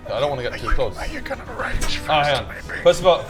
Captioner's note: whispers